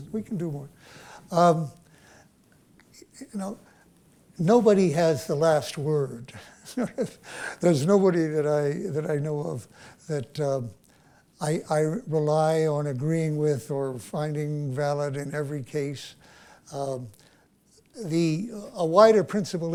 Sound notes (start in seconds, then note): 6.6 chuckles